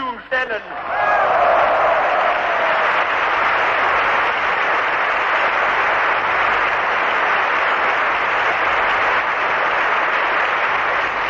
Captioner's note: applause